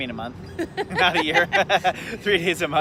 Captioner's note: laughing